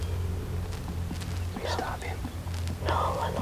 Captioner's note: whispering